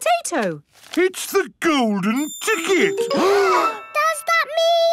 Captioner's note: gasps